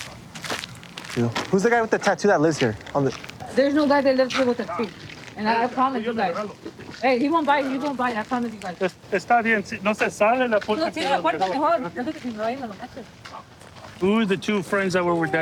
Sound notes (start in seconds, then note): 9.7 speaking spanish